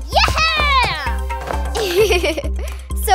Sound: giggles

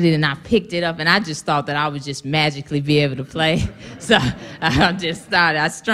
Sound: laughter

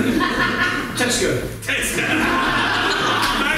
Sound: everyone Laughs

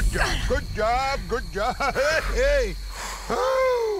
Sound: laughs

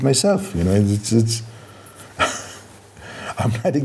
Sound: laughs

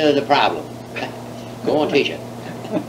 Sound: laughs

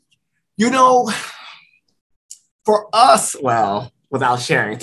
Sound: sigh

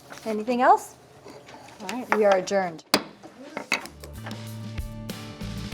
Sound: gavel bangs; upbeat music

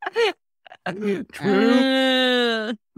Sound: they darkly laugh

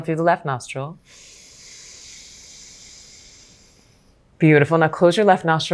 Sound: inhales softly

